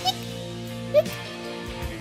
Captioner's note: Hic